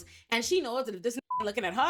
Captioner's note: beep